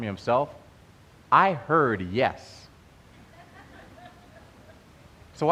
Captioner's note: laughter